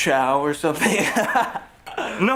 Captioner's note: Paul laughs